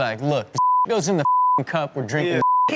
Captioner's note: beep